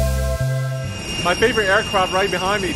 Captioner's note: mystical music; engine whistling